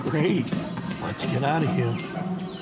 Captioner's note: whispers